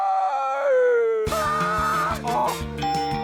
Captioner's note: screams; ding!